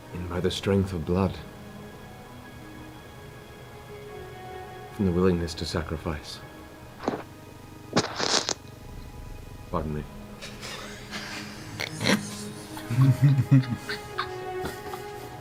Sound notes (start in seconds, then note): 8.6 mic bump; 10.6 laughter